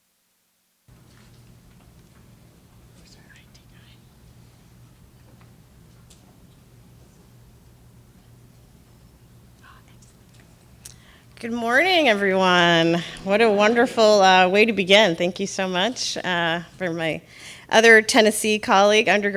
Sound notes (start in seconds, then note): 3.0 whispers